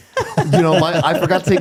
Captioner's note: laughing